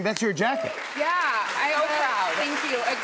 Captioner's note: cheers and applause